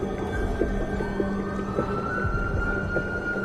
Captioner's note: siren wailing